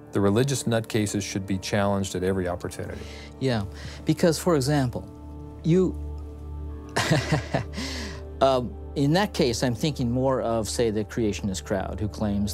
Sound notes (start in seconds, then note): 6.9 chuckles